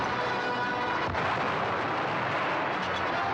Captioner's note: cannon firing